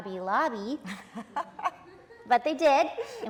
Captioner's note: audience laughing